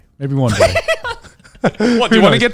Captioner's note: giggling